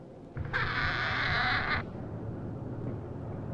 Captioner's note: door creaks